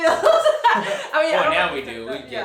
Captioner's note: laughing